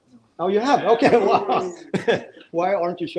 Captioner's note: laughing